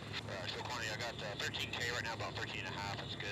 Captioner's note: man speaking muffled over radio; man Over Radio